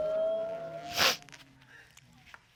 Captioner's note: sniffles